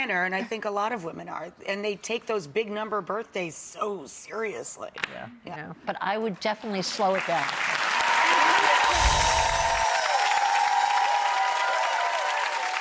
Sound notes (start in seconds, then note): 7.2 audience applause; 8.8 bells chiming